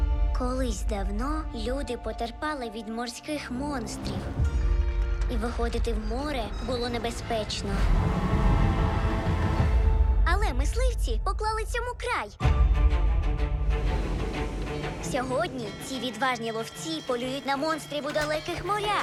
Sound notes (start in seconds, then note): 3.6 rattling; 8.2 suspenseful music plays; 12.4 dramatic music plays